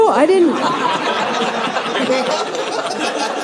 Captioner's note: audience laughing